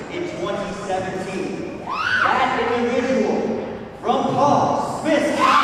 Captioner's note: crowd cheers loudly